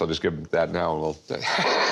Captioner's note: chuckles